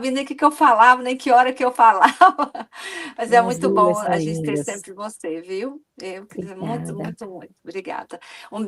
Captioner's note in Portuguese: risadas